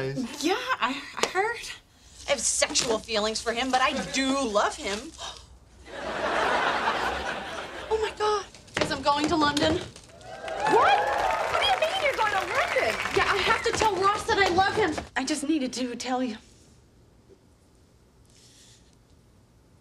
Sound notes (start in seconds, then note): 5.5 gasps; 5.8 audience laughing; 10.2 audience wooing